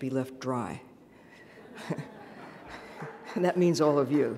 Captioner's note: laughing